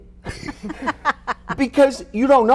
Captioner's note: laughing